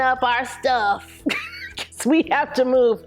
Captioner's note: laughs